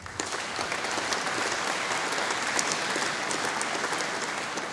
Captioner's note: audience applauding